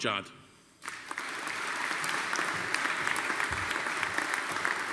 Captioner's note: audience applauding